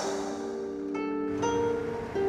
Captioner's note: person sighing; gentle music